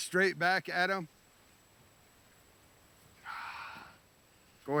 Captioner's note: exhales